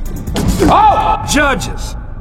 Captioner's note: dunk sound